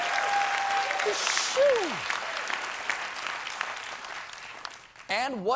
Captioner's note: cheers and applause